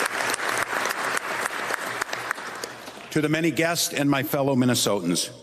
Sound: applause

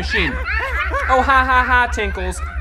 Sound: monkeys laughing

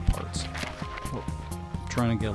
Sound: dog stepping

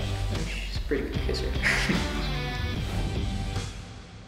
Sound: laughs

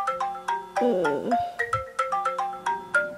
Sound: groaning

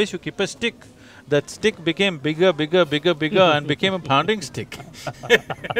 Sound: laughs

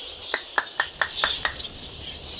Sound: clapping

